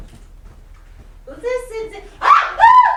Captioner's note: speaking grammelot